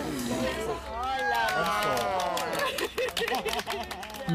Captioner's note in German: Jubel, Klatschen, Lachen